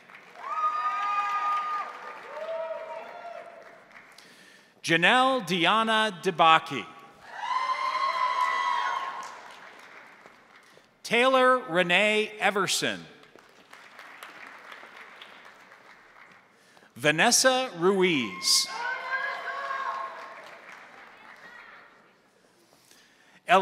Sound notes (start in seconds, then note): 0.0 crowd cheering; 0.0 crowd applauding; 7.2 crowd cheering; 7.5 crowd applauding; 13.2 crowd applauding; 18.6 crowd applauding